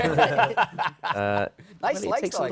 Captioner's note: laughter